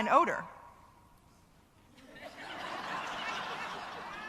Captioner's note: laughter